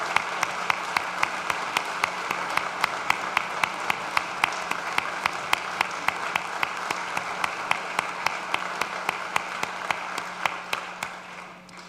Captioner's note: applause